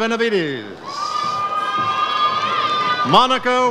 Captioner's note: audience cheers